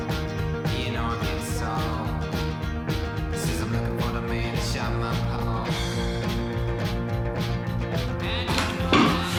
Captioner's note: laughs